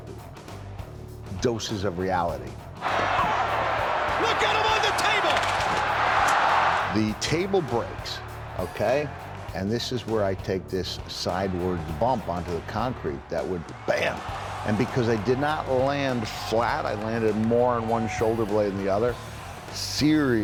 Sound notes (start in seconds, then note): 5.7 applause